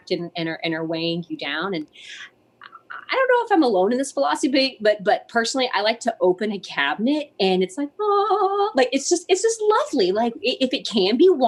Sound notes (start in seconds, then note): none